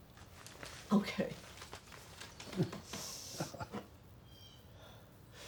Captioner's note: Brian giggling